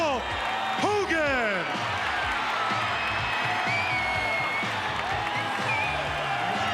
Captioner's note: crowd cheers; rock music